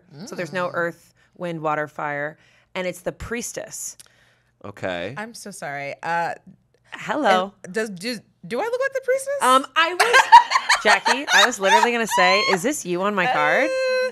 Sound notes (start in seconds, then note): 10.0 laughs